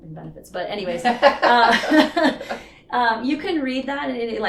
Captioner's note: laughing